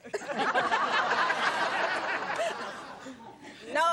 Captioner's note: laughter